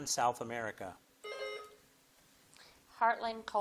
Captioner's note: bell dings